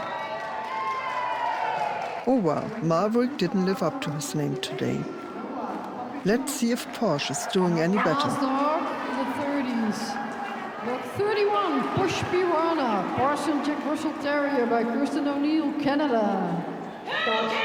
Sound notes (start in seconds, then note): 0.9 crowds cheers and claps